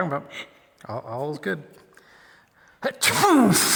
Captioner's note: fake sneezes and blows